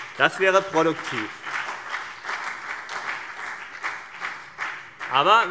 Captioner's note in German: Beifall CDU und BÜNDNIS 90/DIE GRÜNEN